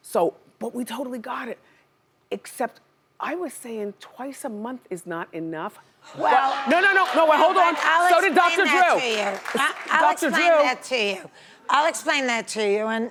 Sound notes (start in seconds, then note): 6.4 audience laughing